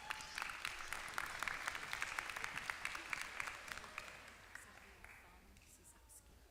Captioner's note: applause